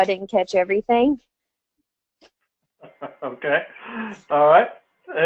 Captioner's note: laugh